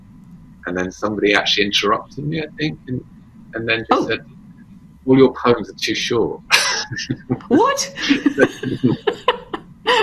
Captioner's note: laughs